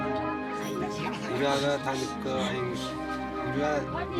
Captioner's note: foreign spoken audio